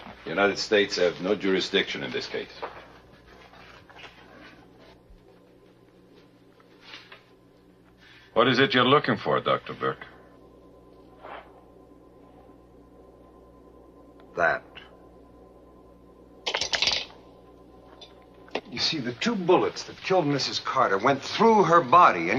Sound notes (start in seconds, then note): 17.2 stick clinking